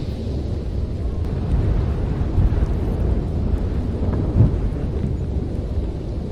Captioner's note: wind blowing